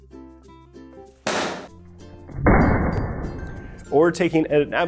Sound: loud bang and slo mo bang

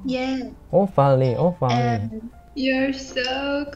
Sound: Farsi

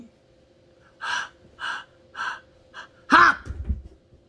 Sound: exhales short breaths

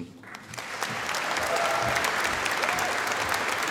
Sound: audience applauding

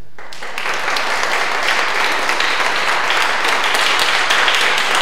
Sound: audience applause

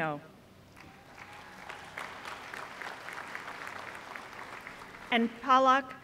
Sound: applause

